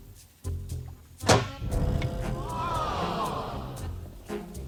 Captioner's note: playful music; clank!